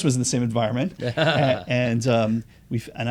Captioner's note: laughter